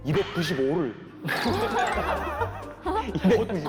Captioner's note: laughing